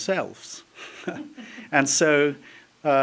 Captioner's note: laughter